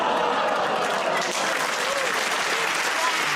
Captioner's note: applause; audience groans